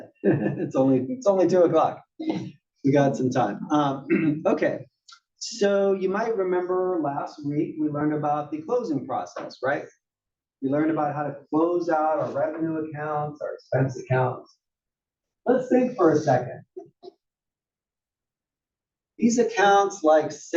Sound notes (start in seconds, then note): 0.1 laugh; 4.0 cough